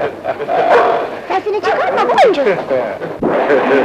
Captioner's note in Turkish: Çevreden gülüşmeler